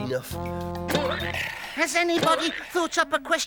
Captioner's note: hammer banging